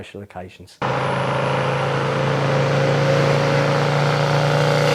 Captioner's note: motorcycle engine sound